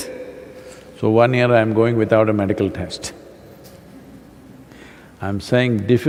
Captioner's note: laughs